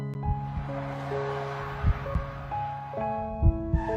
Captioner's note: horn honking; car screeching